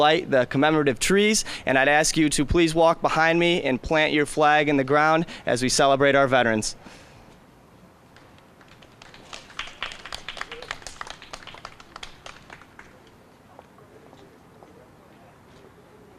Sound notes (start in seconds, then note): 8.6 scattered applause